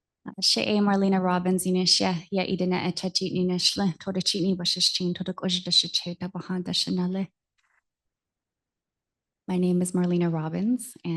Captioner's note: non-english speech